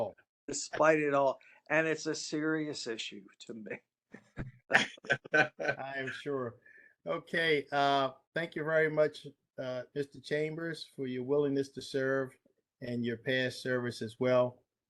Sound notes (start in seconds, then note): 4.4 laughter